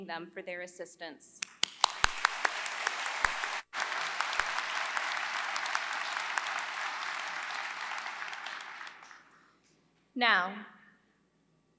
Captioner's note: applause